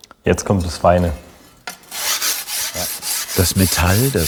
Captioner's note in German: Feine Schleifgeräusche